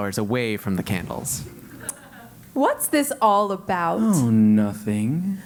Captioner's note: laugh